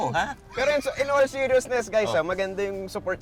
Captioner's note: laughs